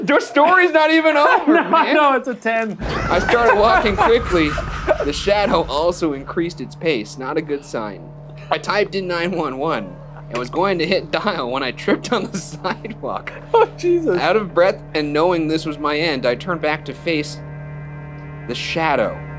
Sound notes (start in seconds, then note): 2.8 Joker laughs; 2.8 laughs